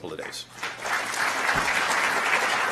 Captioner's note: applause